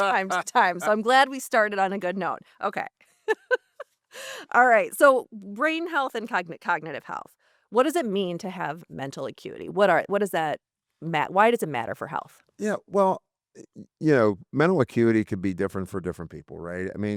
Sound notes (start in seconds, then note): 3.2 laughter